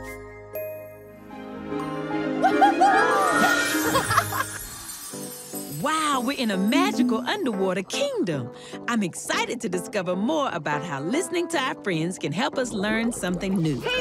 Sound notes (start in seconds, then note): 2.4 chuckling; 2.5 whooping